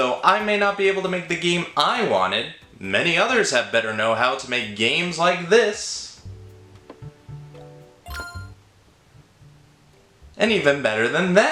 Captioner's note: pong